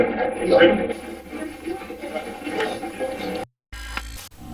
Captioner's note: static playback transmitting; static fizzing